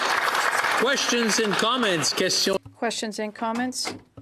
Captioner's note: some Applause